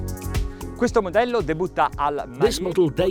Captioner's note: speaking in foreign language